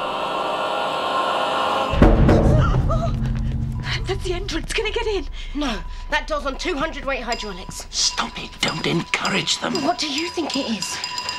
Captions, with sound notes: (POUNDING) That's the entrance. Can it get in? No. That door's on 200-weight hydronics. -Stop it. Don't encourage them. -Well, what do you think it is?